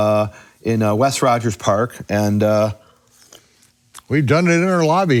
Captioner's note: slurping